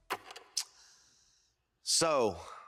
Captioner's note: film reel clicks